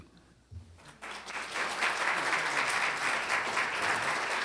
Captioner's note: applause